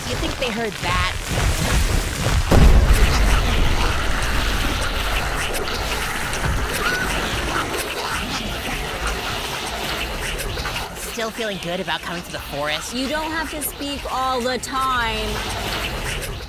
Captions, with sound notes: You think they heard that? [VIOLENT SCREAMING] Still feeling good about coming to the forest? You don't have to speak ALL THE TIME!